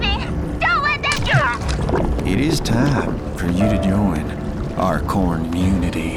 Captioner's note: bubbling